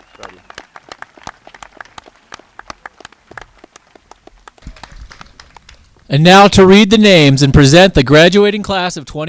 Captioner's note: cheers and applause